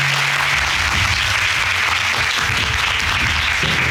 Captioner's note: applauding